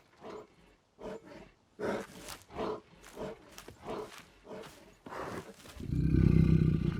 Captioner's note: bear huffing; bear grumbles